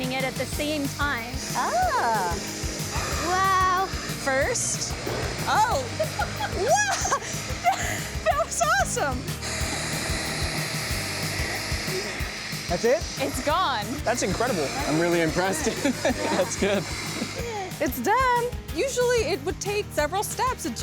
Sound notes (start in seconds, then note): 5.4 laughing; 14.3 laughing